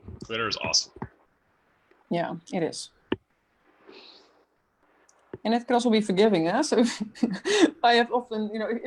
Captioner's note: laughs